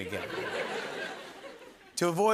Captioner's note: laughter